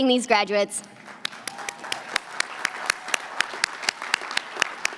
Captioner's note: applause